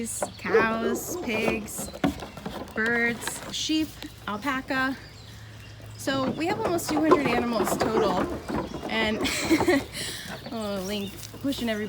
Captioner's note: laughing